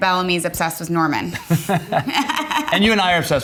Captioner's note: Justin and Kate laughing